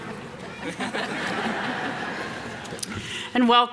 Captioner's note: everyone laughing